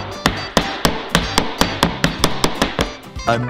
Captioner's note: glass tapping